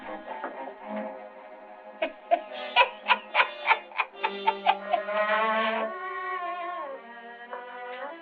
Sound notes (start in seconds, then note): 1.9 chuckling